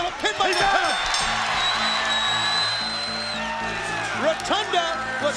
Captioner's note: bell rings